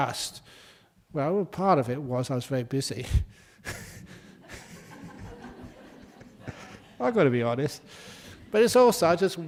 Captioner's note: laugh